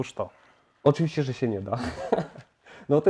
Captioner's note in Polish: śmiech